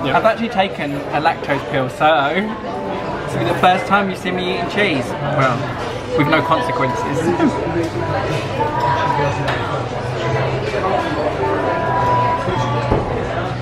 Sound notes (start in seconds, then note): 7.8 bright music; 7.8 diners chatting indistinctly